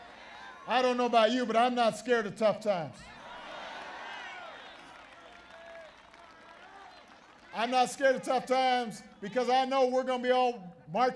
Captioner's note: applause